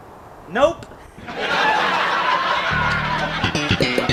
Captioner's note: laughing